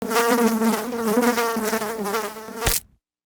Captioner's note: fly buzzing; fly splatting